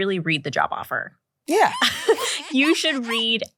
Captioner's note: laughs